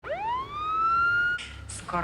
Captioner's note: ambulance siren